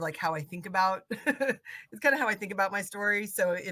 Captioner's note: laughing